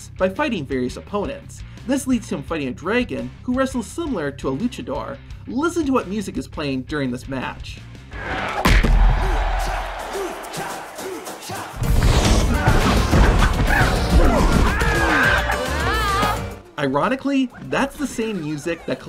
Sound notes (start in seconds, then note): 11.8 upbeat Latin music; 12.5 bodies thudding; 13.6 screams